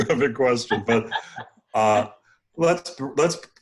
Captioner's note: laughs